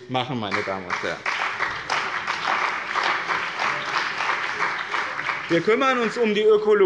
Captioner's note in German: Beifall bei dem BÜNDNIS 90/DIE GRÜNEN und der CDU